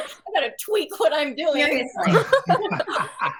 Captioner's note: all laughing